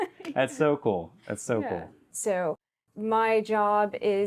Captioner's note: both laugh